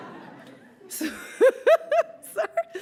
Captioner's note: laughs